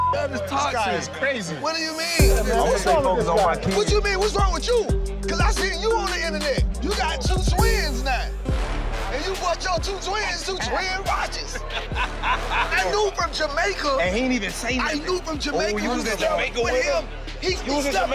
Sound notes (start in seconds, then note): 11.4 laughs